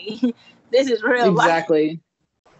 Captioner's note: giggling